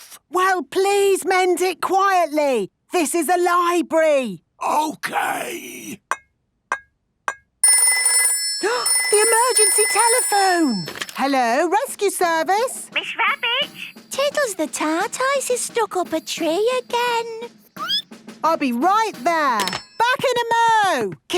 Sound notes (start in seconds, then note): 4.3 whispering; 7.7 phone ringing, gasp; 17.4 squeaking